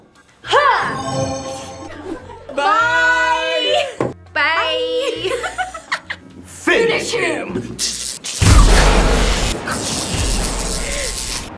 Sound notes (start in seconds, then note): 1.3 both laugh; 5.0 group laughs; 7.8 electricity crackles; 8.4 thunder crashes